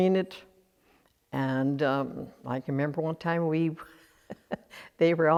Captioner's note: laughs